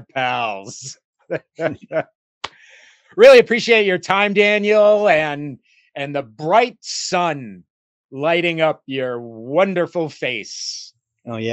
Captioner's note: laugh